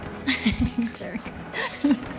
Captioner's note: laughs